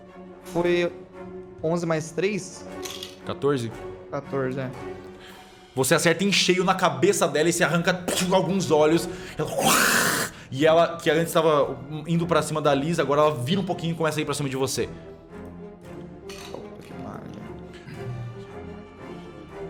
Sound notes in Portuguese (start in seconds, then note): 9.5 som da aranha furiosa; 9.5 som do olho sendo arrancado